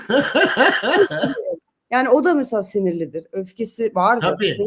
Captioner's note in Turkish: kahkaha